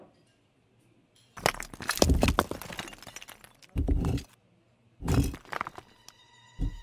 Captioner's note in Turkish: Tuğla tıkırtısı ve gürültü; Gergin orkestra müziği üzerinden tuğla tıkırtısı